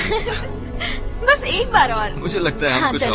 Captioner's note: giggling